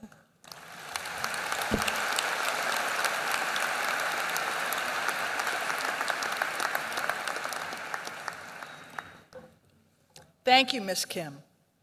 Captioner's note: applause